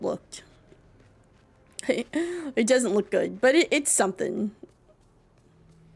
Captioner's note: laughs